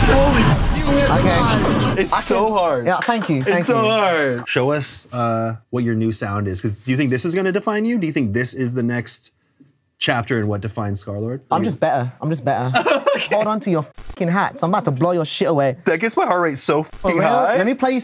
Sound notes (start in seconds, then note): 12.7 laughs